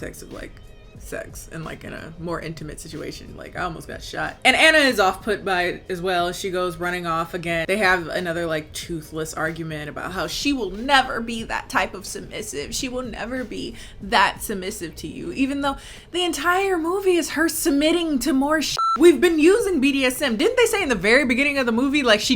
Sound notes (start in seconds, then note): 18.8 beep